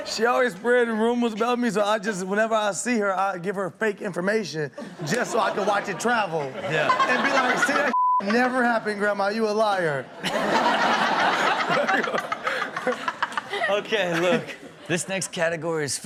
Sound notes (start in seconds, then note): 4.8 Chanel laughing; 4.8 audience laughing; 7.9 beep; 10.2 all laughing